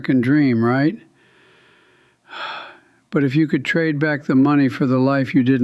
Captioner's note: sighs